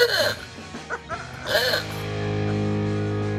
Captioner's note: horn beeping; chuckling; horn beeping; upbeat music